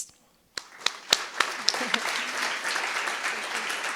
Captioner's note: clapping